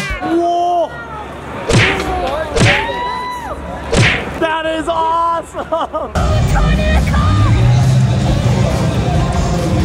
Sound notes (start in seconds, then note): 3.9 fists banging; 7.4 engine revving